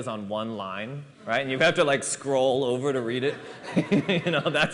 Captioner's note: laughter